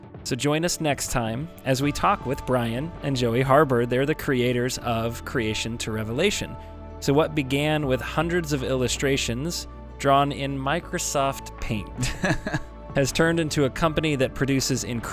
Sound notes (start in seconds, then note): 1.1 mellow music; 11.9 laughs